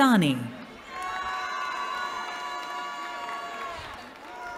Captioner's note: cheering